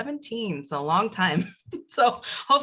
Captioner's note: laugh